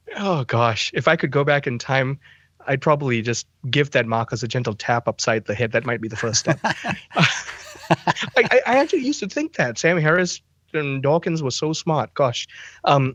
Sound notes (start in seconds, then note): 8.7 both Laughing